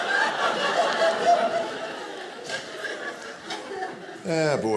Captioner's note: audience laughing